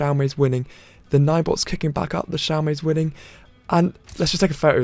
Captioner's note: photo snap